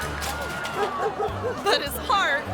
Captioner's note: object clatters; dog barking